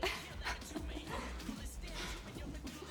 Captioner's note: laughs